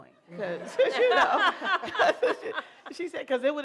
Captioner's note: laughter